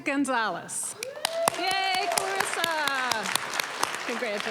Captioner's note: applause, cheering